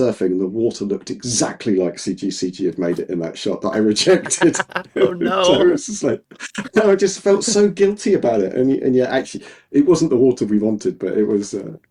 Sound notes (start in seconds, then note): 3.8 both laughing